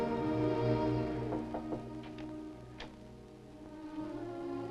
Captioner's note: knocking on door